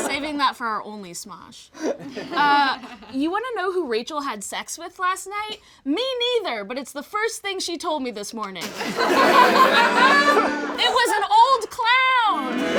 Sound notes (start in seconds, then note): 8.7 all laugh; 9.1 plays accordion